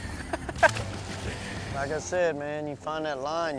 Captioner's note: laughs